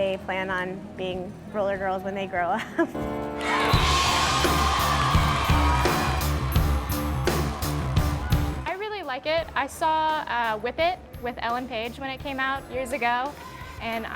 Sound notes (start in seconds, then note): 3.4 crowd cheering; 4.9 rock music